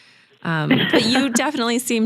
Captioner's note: laughs